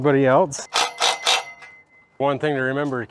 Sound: drill whirs

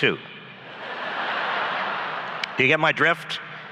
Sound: laughs

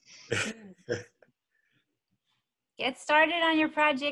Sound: laughing

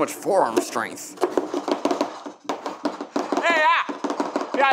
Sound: spatulas chopping

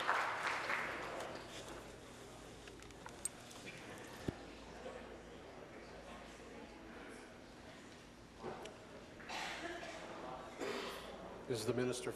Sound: applause

